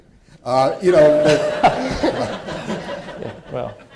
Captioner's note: laughter